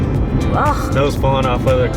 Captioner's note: groans